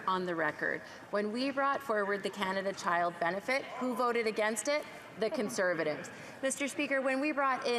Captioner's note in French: voix de l'interprète